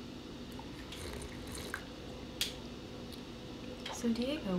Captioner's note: slurping tea